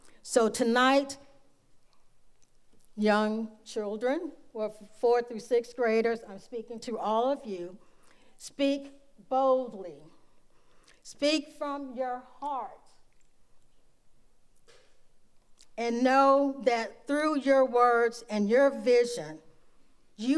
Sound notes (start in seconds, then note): none